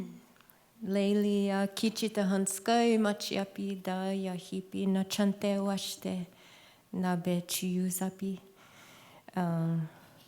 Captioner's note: non-english speech